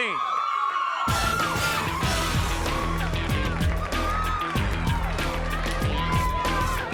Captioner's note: upbeat music; crowd cheering